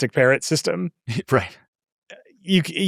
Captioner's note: laughs